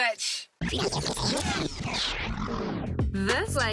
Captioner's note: tape rewinds